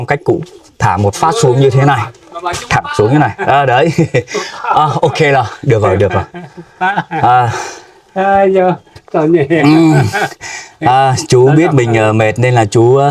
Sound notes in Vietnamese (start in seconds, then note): 7.5 tiếng cười